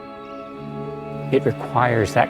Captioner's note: seabirds crying